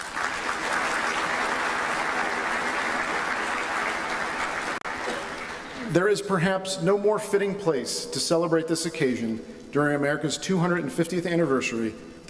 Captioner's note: applause